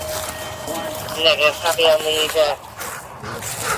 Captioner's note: radio chatter